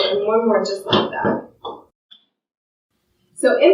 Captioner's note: adjustment table thuds